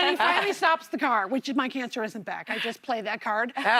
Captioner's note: laughter